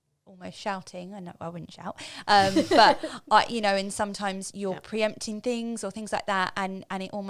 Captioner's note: laughing